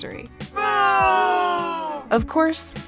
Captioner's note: crowd groans